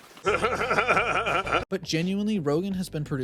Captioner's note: Seth Rogen laugh